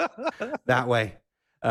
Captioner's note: laughing